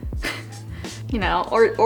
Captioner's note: chuckles